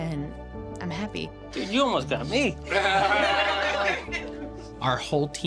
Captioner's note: laughter